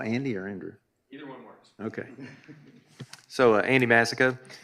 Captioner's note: laughs